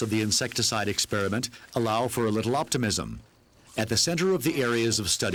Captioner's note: leaves rustling